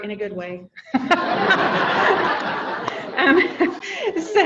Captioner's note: audience laughing